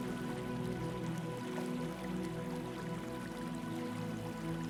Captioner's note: water trickling